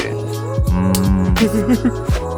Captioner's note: hunger sounds